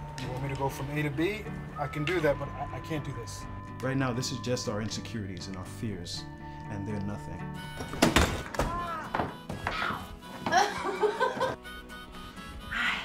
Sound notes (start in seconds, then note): 7.9 door opening and banging on pole; 10.3 laughing